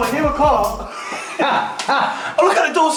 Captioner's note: laughing